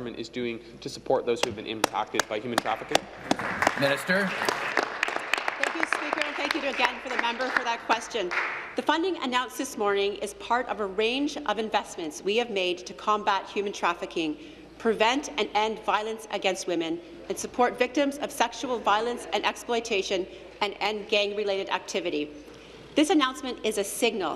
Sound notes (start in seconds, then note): 8.4 applause